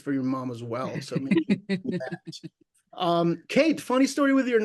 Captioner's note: laughing